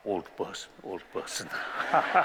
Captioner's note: laughter